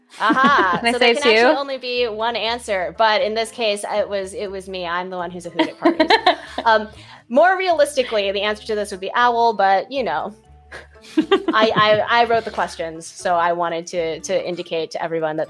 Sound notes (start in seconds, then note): 5.6 laughs